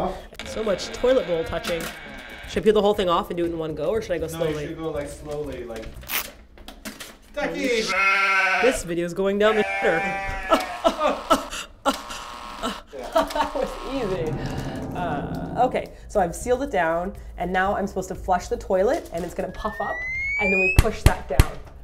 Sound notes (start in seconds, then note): 9.4 sheep sound